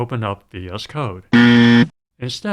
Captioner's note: buzzer